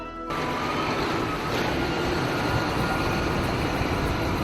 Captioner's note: tractor roars